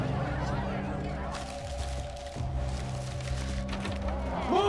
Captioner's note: excited chatter; paper rustles